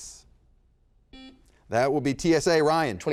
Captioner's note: beep